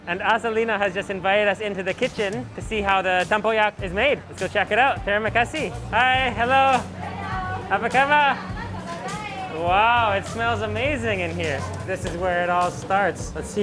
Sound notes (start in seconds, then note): 5.0 speaks in foreign language; 7.7 speaks in foreign language; 9.0 chefs speak in a foreign language